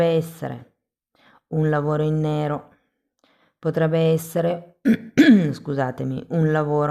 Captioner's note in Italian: schiarire la voce; tosse